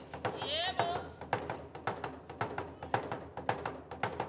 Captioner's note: drum beating and hands clapping; shouting and drum beating; drum beating